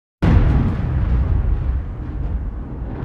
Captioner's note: thunder clap